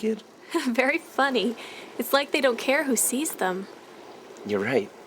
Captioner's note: laughing